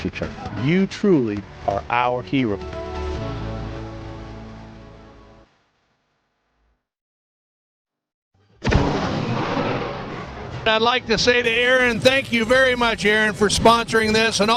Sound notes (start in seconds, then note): 8.6 logo bangs